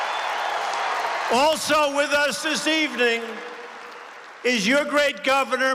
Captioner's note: applause